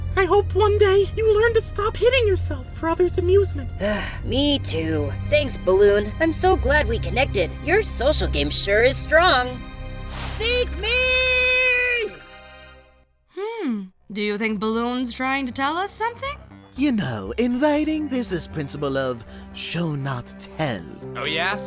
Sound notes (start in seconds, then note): 4.3 sigh; 12.6 sarcastically